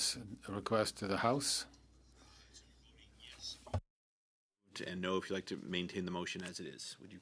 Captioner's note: speaking French